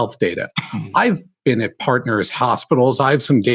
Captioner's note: cough